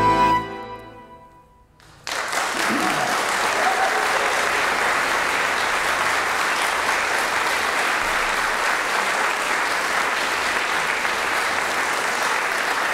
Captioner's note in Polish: aplauz